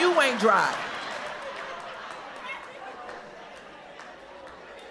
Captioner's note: crowd laughs